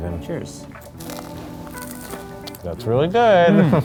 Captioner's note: toast crunching